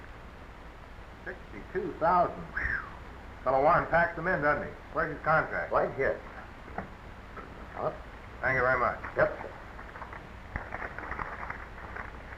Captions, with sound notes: 62,000 (whistling). Fellow Warren packs 'em in, doesn't he? Where's his contract? - Right here. - Thank you very much. - Yes sir.